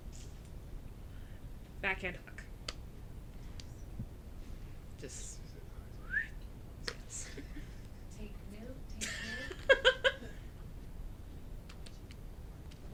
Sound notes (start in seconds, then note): 6.0 whistles; 9.0 laughing